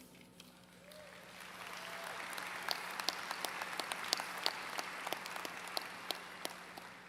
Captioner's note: applause